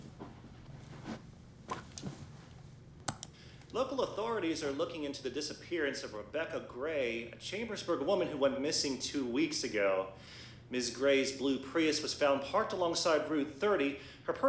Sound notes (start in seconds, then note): 3.0 remote clicking